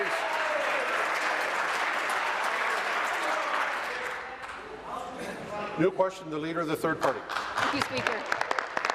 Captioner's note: applause; continued applause